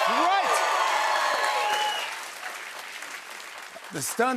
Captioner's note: cheers and applause